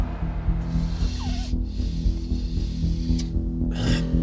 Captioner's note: sniffing